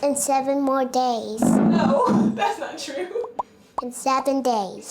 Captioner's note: laughing